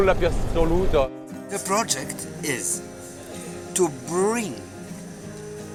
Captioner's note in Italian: Inglese